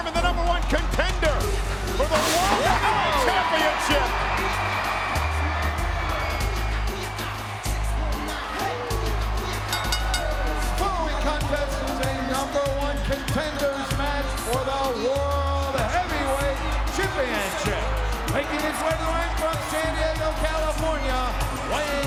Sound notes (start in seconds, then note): 4.7 crowd cheering; 9.6 bell dings